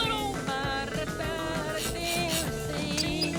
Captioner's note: humming